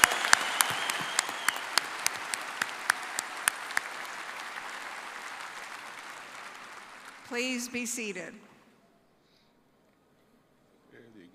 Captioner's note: applause